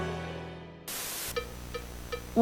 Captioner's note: white noise